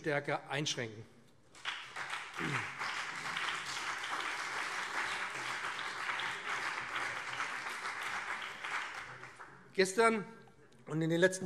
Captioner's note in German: Beifall BÜNDNIS 90/DIE GRÜNEN und CDU